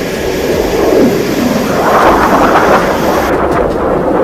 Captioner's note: airplane engine roaring